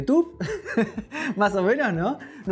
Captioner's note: laughs